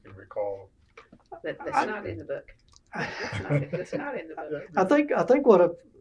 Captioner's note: laughter